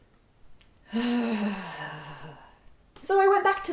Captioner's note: angry exhale